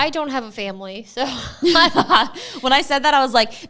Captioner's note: laughs